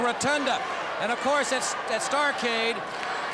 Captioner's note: crowd cheering